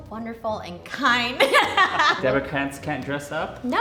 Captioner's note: laughing